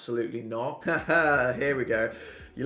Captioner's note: laughs